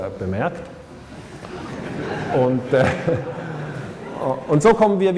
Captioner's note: laughter